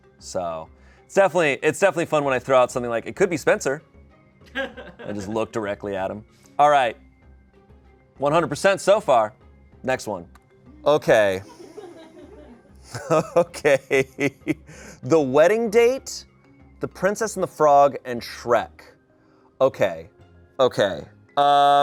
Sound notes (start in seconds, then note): 4.5 laughs; 11.4 laughs; 11.4 audience laughing